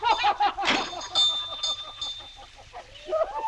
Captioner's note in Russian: они смеются